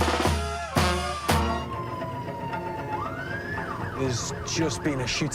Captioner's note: siren wails